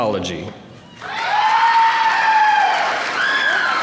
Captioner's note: applause